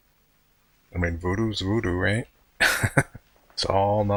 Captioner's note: chuckling